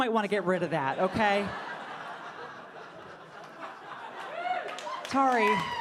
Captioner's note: audience laughing